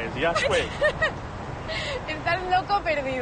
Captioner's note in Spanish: Risas